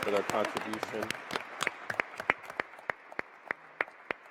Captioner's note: applause